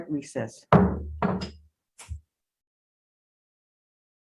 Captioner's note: gavel thuds